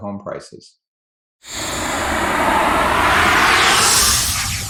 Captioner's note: air whooshing